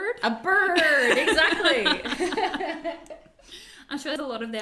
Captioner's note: both laugh